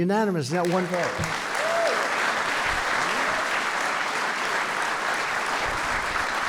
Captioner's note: applause